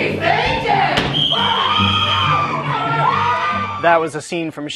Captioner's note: whistle blowing, screaming